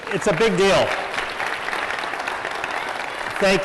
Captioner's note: applause